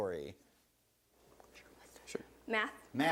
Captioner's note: whispers